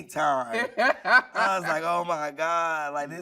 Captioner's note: laughing